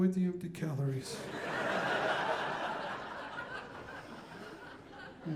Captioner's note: audience laughing